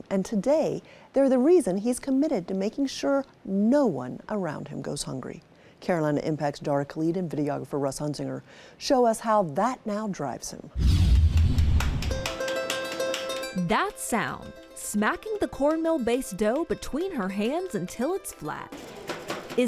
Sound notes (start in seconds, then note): 11.8 slaps clapping; 12.2 gentle tempo music